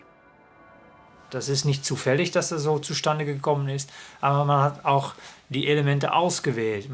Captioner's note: scientist speaking foreign language